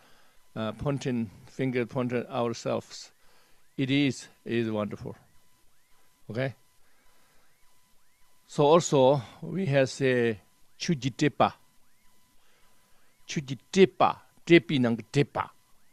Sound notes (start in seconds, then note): 10.4 tibetan; 13.0 tibetan